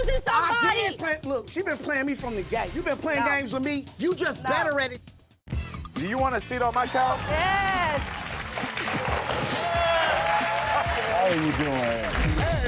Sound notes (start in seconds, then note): 5.1 upbeat music; 8.5 audience applauds; 9.9 audience cheers; 12.4 upbeat music